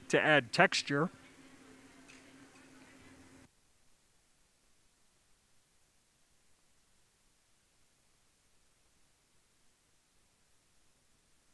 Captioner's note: silence